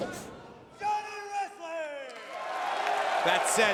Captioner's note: shouting